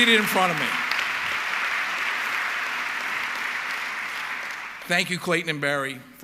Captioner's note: audience clapping